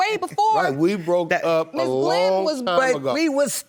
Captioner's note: laughs